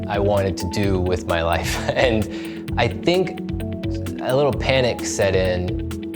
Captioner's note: chuckles